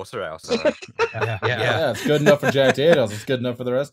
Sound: laughter

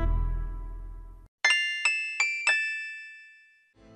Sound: Point noise from 'Gabriel Knight' plays

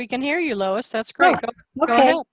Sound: on phone

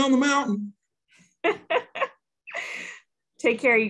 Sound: laughing

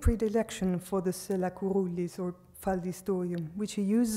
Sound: speaks foreign language

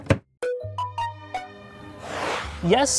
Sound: soft music; whooshing sound

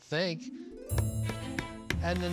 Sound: hammer pounding

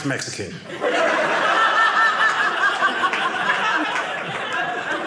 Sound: audience laughing

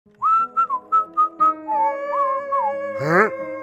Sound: whistling

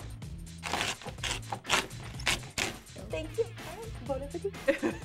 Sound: ripping noise; laughs

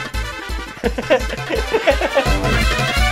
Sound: laughing

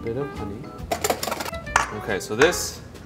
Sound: whisk clangs in bowl

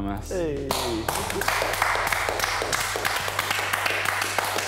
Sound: guys applaud

